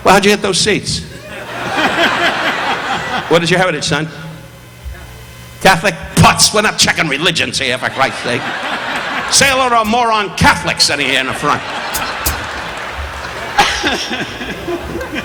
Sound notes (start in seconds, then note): 1.1 audience laughing; 11.0 audience laughing